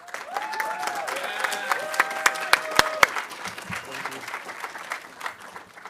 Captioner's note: audience cheering and applauding